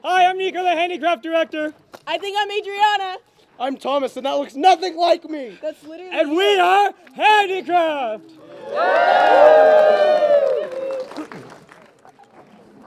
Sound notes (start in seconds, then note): 8.4 cheering